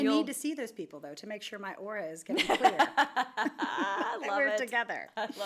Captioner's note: laughs